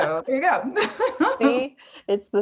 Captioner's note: laughs